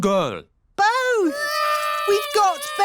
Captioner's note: babies cry